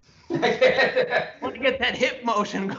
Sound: laughs loudly

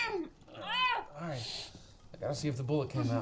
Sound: Lilith loudly groans

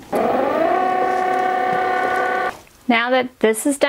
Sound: machine working

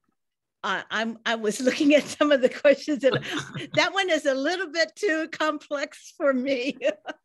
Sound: laughing

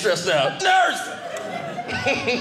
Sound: audience laughing

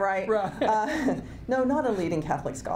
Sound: laughs

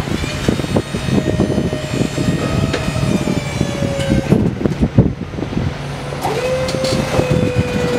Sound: hydraulic pump squeals

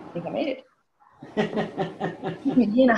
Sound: laughs

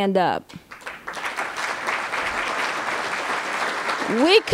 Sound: applause

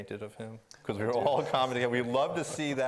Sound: laughing

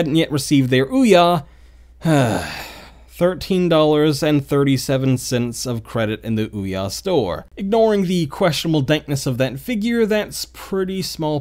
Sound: sigh

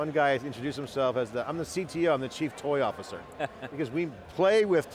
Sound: laughs

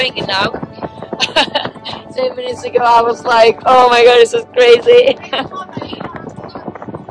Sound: laughs

